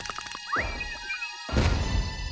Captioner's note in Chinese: 咚!